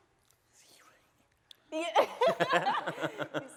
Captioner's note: whispering; laughing